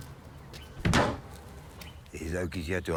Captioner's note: tire slams